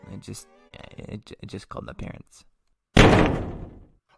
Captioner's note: crash